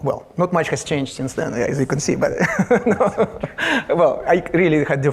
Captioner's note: laughs